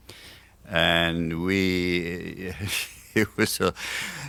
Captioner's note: laughs